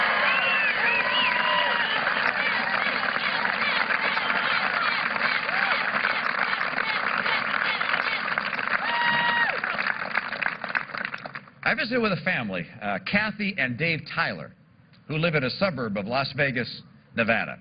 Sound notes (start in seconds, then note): 10.5 applause